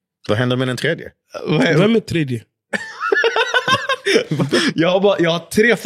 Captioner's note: laughs